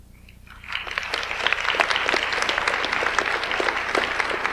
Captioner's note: audience applauds